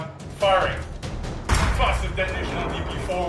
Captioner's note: weapon blasts